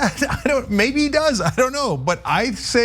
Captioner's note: laugh